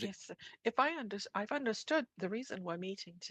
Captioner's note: speaking French